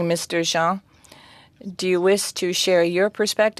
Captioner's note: speaking french